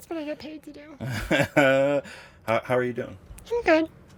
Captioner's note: laughs